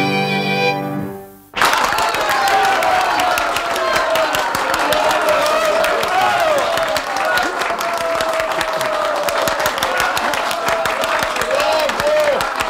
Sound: applause

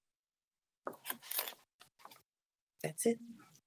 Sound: microphone shuffles

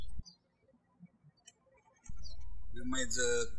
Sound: birds chirping

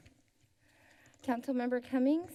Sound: breath

